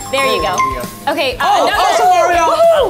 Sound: app chimes

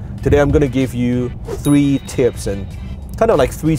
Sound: ding

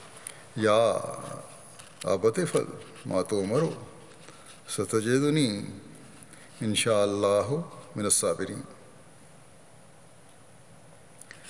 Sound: Arabic

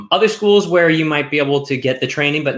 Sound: none

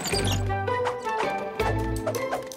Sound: squeaking

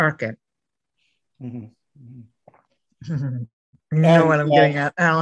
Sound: laughing

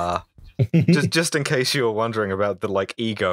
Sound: laughter

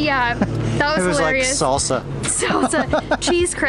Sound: laughter

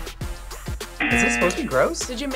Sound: buzzer

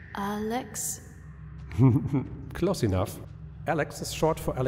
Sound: laughing again

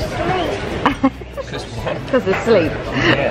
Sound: woman laughing

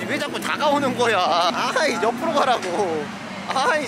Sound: bickering playfully, LOL

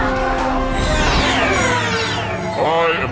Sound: laser sound

